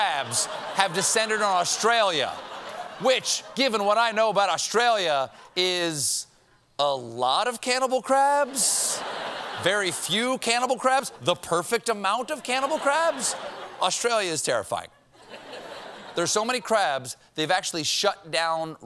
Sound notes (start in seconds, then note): 9.9 laughter